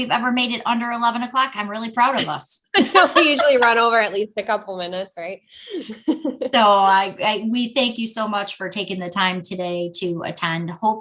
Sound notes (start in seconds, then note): 2.8 laughing